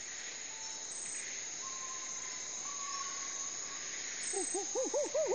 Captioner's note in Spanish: Canto de aves; Chillidos de monos